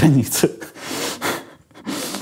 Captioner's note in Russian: усмехается